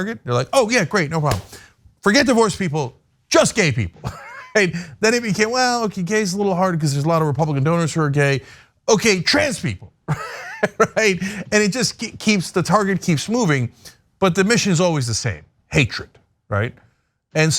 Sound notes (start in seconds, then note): 10.0 laugh